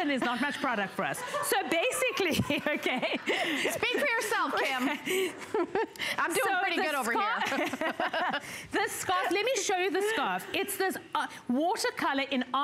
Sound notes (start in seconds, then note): 6.4 laughter